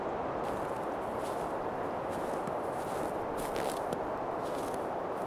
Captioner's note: footsteps crunching